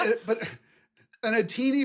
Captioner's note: laugh